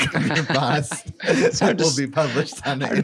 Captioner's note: laughing